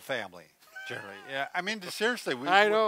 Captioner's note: laughs